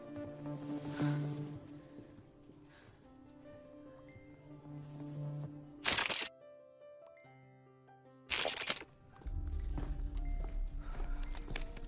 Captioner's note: exhales deeply